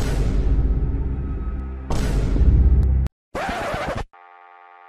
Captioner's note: tense brooding music; audio thudding; record scratching; device buzzing